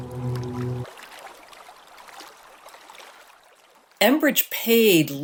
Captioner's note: gentle waves